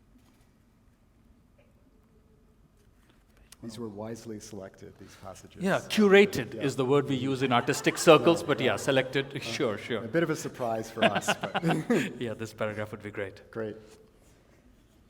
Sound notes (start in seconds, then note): 10.4 laughter